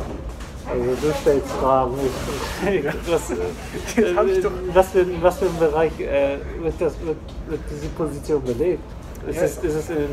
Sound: everybody laughs

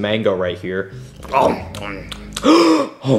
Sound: Mario chewing; Mario gasping

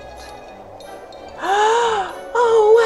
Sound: gasps

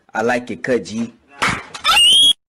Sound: smacks

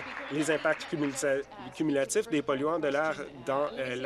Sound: applause

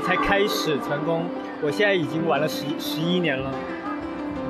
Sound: in mandarin

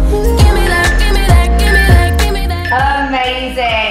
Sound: timer beeping

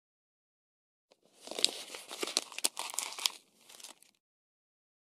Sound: sound of paper

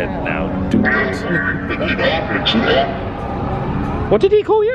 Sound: robot talking

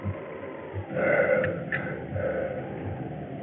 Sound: grunts

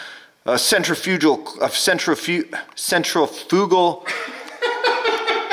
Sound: sighs; laughter in the background

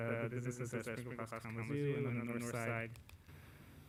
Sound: audio echoes

